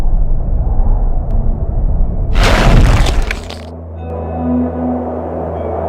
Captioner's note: crack!